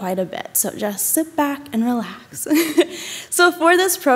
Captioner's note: chuckles